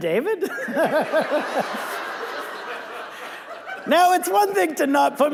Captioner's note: audience laughing